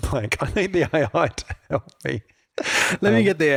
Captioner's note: laughs